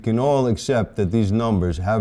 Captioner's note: none